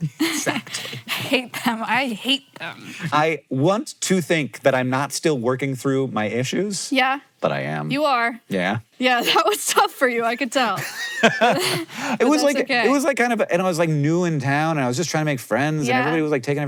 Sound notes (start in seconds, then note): 10.7 laughs